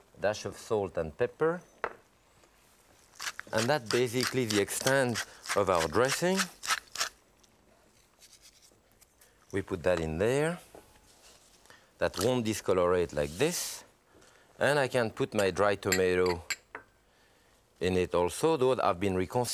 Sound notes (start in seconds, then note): 6.1 pepper cracking; 8.3 salt sprinkling